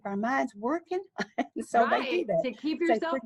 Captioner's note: laughs softly